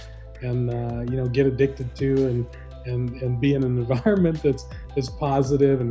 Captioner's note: chuckles